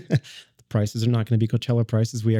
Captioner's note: laughs